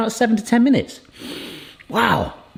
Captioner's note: sniffs